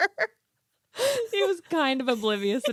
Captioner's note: both laughing